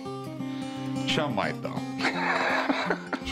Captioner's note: laughs